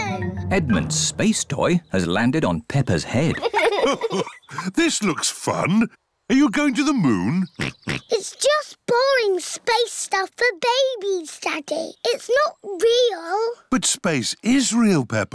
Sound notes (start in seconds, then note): 3.1 chuckles; 7.6 oinks